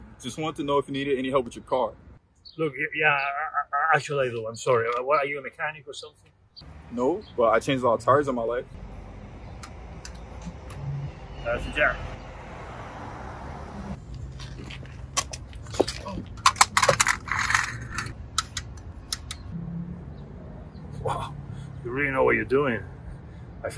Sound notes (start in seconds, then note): 15.6 jack rattles